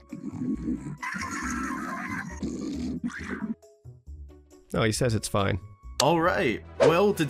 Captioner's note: Bokoblin Noises